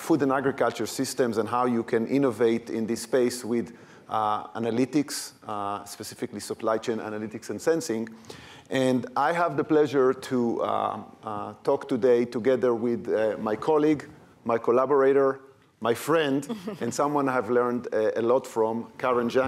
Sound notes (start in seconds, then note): 16.2 chuckling